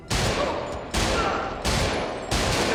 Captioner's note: gunshots